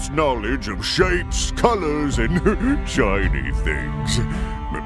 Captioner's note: chuckle